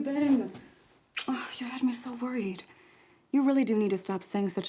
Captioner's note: kiss